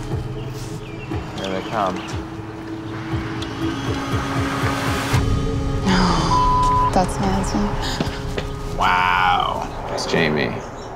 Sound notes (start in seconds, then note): 6.1 beep